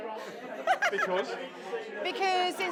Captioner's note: laughter